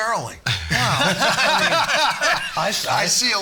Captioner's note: all laughing